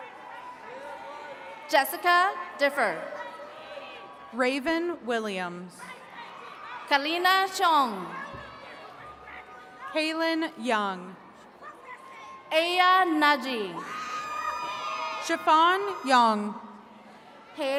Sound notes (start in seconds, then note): 13.8 attendees cheering